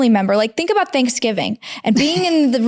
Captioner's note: laughing